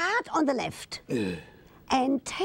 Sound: breathes out

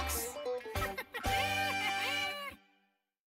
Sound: laughing sounds

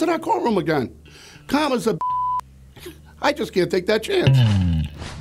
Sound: beep

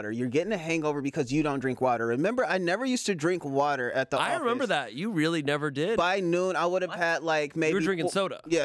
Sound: none

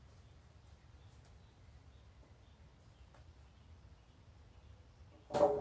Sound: distant footsteps; clank

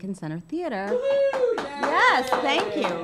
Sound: cheering

